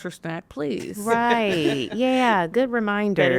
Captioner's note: laughing